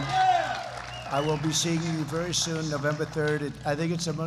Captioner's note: applause